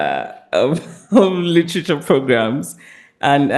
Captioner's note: chuckles